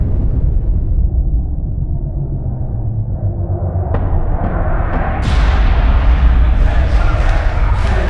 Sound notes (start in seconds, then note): 2.6 crowd chanting